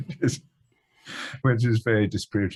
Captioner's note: laughing